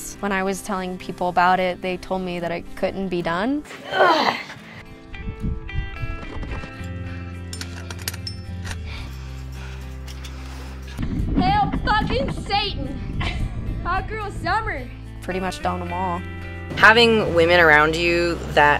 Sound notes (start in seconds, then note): 3.7 grunts; 7.4 gear clanking; 13.1 laughs